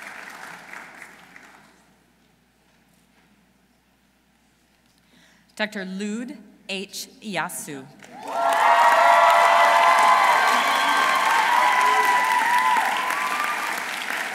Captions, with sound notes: Dr. Lud H. Eyasu. -(audience cheering) -(audience applauding)